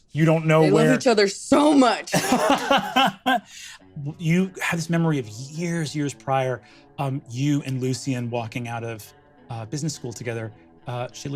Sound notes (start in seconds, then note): 2.1 laughs